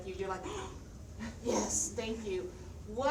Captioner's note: gasps